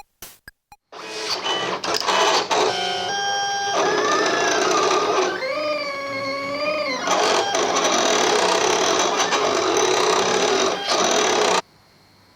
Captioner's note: plotter cutter sings